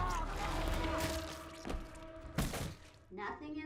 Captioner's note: eerie squelching